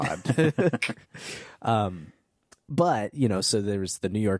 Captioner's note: laughing